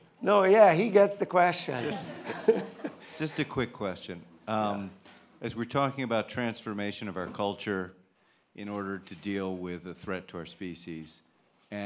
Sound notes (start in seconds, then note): 1.7 audience laughing